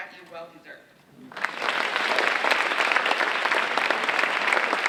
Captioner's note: audience applauding